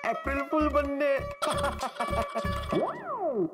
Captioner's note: laughs